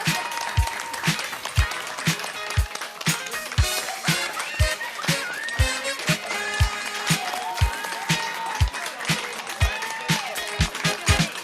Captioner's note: applause